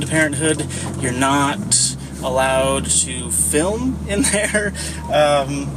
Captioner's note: laughs